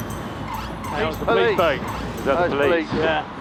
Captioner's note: siren wails